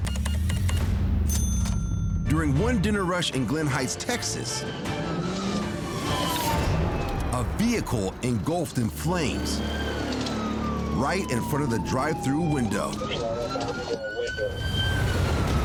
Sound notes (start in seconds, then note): 1.2 cash register beeping, dinging; 4.5 siren wailing; 4.9 dramatic music playing